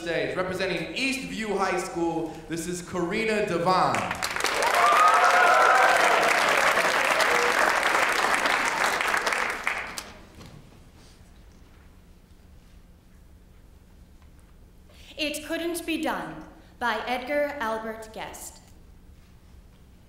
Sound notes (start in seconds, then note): 7.5 applause